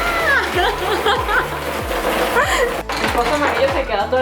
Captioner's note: laughs